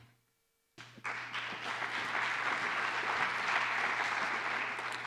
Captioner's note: applause